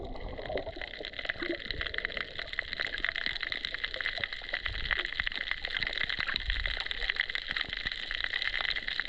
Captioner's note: reef sounds